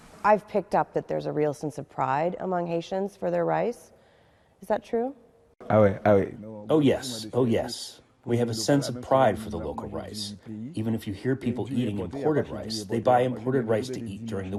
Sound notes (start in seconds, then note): 7.5 through translator